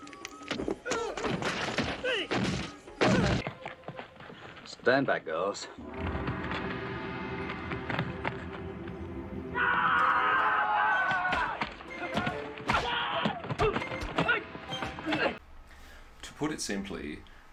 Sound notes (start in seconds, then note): 0.1 fight noises; 3.6 hurried footsteps; 5.8 gong roaring; 7.2 hurried footsteps; 9.5 aaaah!!!; 9.5 fight noises